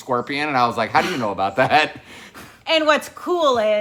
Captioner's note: chuckles